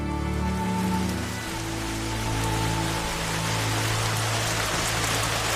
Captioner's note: rainfall